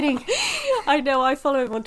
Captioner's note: laughing